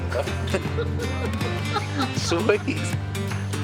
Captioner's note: group laughs